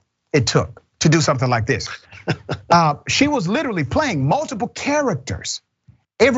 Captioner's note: laugh